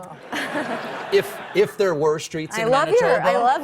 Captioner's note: laughter